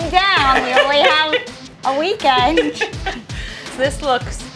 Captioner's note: laughs